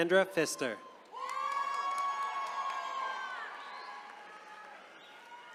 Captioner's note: attendees cheering